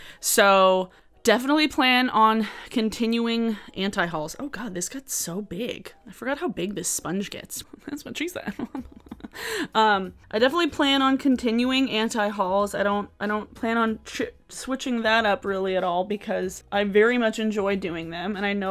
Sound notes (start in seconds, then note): 8.4 laughs